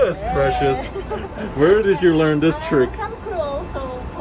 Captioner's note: both laughs